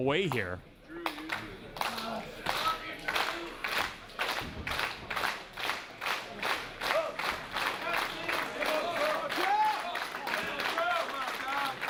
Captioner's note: applause